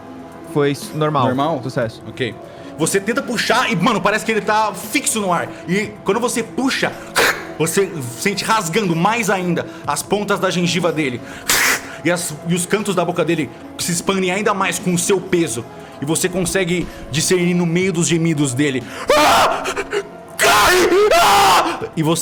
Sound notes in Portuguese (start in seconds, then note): 11.4 Sshhrrr; 19.3 Gritando